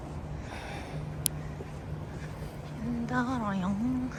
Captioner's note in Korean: 그의 거친 한숨~~